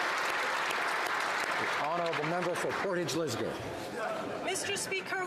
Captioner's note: applause; cheering